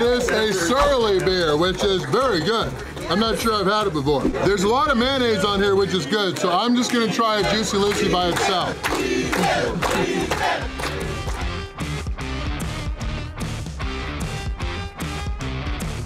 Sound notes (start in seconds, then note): 9.8 crowd